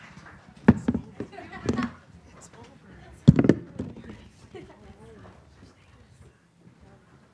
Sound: applause

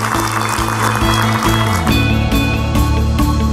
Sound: applause

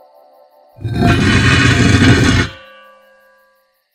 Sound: heavy scraping

